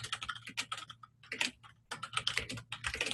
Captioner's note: typing